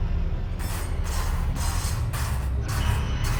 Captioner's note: scratching